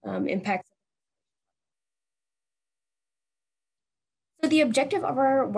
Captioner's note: audio cuts off